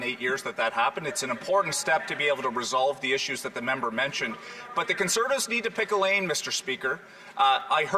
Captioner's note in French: voix de l'interprète